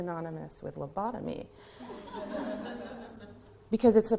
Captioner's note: laughter